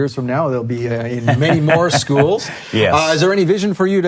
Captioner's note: laughing